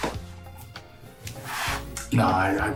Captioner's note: footsteps tapping